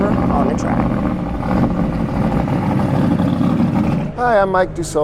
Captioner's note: engine Sound